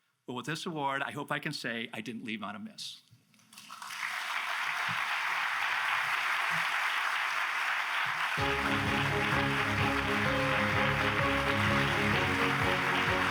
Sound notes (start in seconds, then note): 3.7 audience applauds; 8.2 applause continues; 8.4 grand music